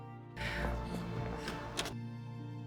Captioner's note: Serena inhales and exhales quickly